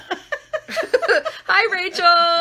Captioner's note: laughing